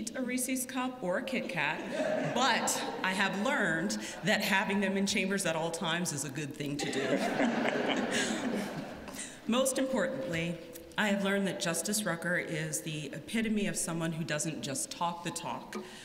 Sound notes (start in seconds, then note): 8.9 laughter